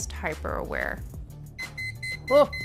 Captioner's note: beeping